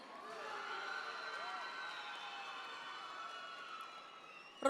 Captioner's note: audience members cheer